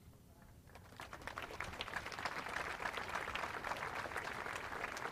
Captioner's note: audience applauds